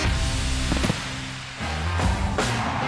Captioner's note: upbeat music; fireworks exploding; upbeat music